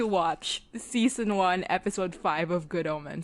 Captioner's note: none